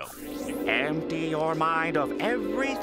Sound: none

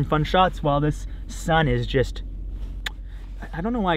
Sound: clicks tongue

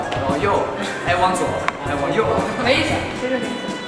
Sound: sudden celebrating

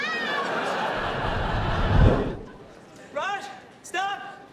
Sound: audience laughing

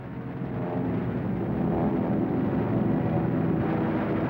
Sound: planes zooming

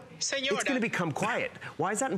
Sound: electronic voice

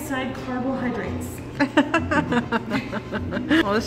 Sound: laughter

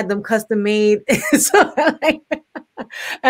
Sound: laughs

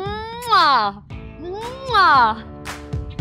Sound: kissing

